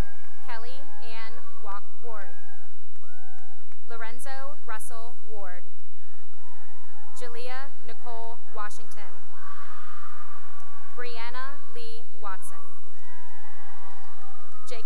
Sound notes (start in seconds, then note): 0.0 cheering and applause; 6.1 cheering; 9.9 cheering; 13.4 cheering